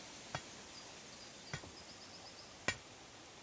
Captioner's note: metallic thudding